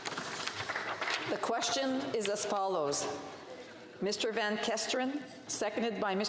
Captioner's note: applause